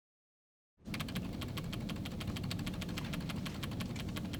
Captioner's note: keystrokes